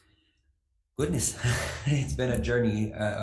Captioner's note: chuckles